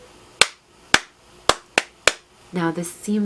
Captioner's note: hands clapping a rhythmic pattern